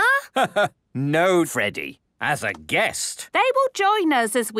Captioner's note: laugh